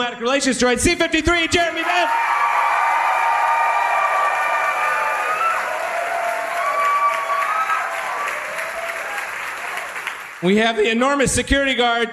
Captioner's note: audience applauds